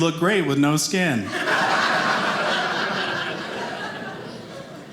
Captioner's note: audience laughing